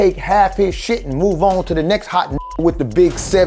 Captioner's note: beep